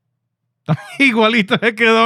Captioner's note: laughing